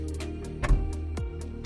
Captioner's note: door thuds